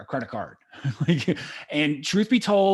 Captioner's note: laughs